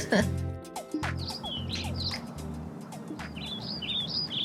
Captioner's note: bird chirping